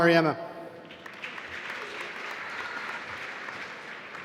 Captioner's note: applause